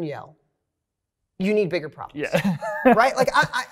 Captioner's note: laughs